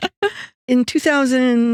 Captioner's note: laughing